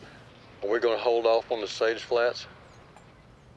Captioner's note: on phone